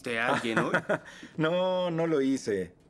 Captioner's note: laughs